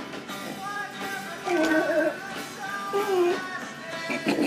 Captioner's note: grunting